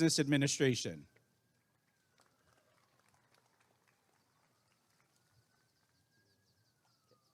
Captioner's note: applause and cheering